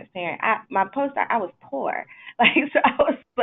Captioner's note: laughs